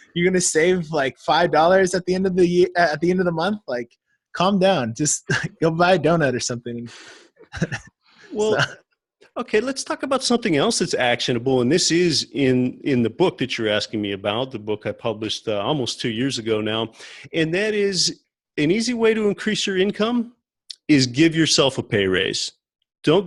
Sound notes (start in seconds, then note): 7.4 laughs